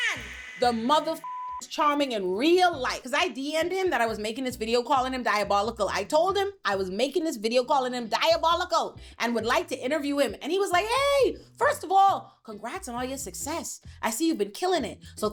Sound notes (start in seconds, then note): 1.2 beep